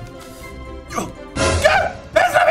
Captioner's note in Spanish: Emocionado